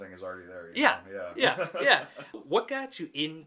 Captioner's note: laughs